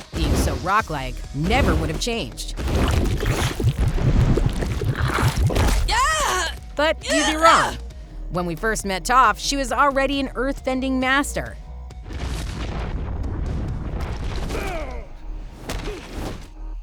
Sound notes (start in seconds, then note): 5.5 shrieking; 14.5 groaning